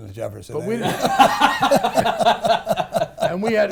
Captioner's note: laughs